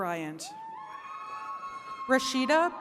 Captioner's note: attendees cheering